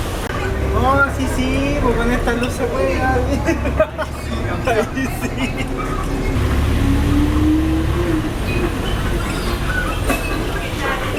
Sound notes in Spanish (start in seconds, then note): 3.2 Risas